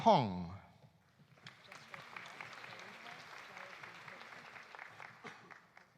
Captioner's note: audience applauding